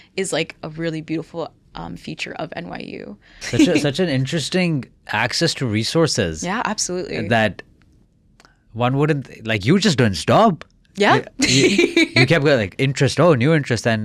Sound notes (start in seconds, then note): 3.4 chuckling; 11.1 laughs